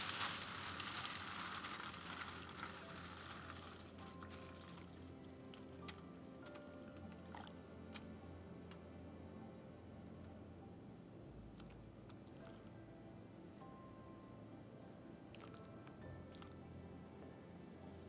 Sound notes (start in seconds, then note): 0.0 water trickling; 3.0 calming music; 11.6 powder trickling